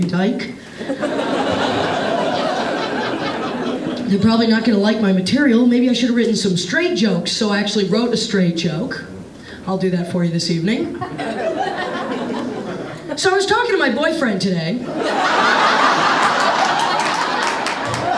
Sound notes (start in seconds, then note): 11.5 audience laughing; 17.9 audience applauding